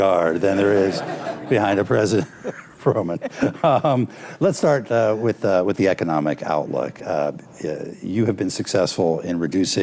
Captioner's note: laughter